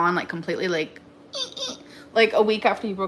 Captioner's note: squeaks